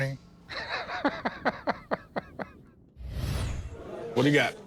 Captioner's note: laughs